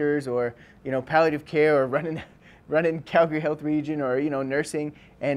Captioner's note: chuckles